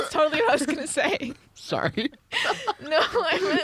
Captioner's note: laughs